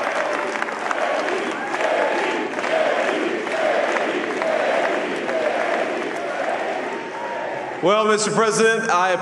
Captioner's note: applause